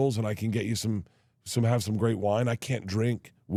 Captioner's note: none